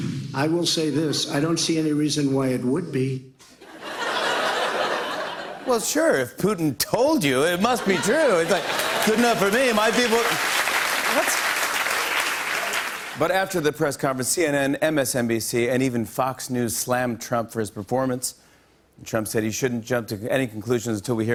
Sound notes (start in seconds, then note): 3.6 laughter; 8.6 As Trump; 11.0 normal voice; 12.3 applause